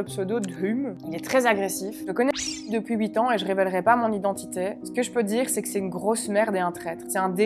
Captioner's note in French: bip